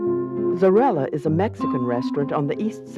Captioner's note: voiceover